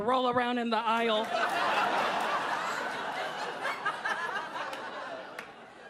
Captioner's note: audience laughing